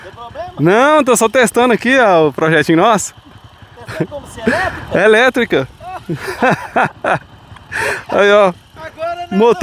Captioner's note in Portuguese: risadas